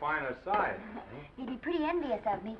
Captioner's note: Esther chuckles